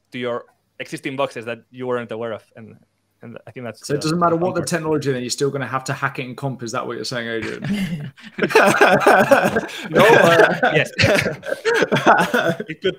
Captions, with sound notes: to your existing boxes that you weren't aware of and I think that's, so. - It doesn't matter what the technology, and you're still gonna have to hack it in comp, is that what you're saying earlier? (laughs) - Yes.